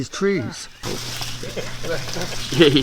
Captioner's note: branch crackling; indistinct chatter